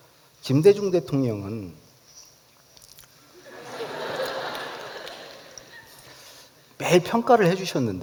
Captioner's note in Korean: 웃음